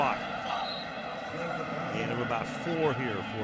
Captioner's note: whistle